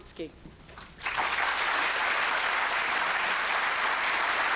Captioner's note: applause